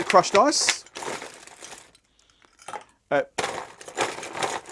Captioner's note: ice clinking